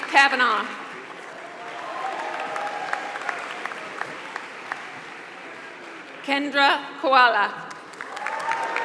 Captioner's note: applause